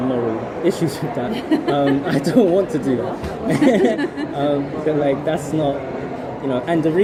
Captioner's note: laughs